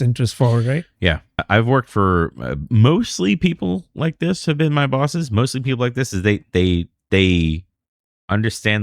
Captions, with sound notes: interest forward. Right? Yeah [UH] I've worked for mostly people like this have been my bosses. Mostly people like this as they, they, they understand